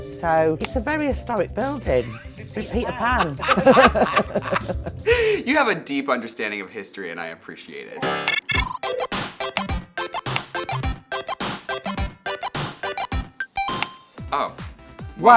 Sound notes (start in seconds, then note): 3.9 both laughing; 8.0 upbeat music